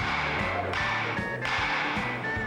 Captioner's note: gavel banging